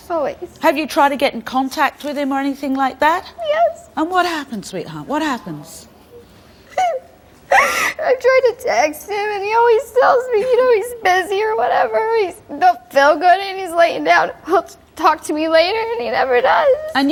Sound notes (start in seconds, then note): 5.8 cries